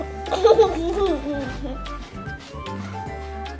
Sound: giggles

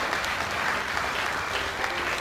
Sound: applause

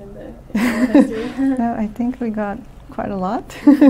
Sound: laughs

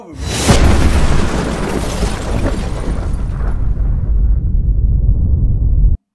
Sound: massive explosion

